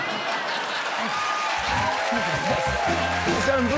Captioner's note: cheers and applause